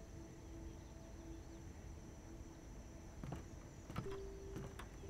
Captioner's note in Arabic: خطى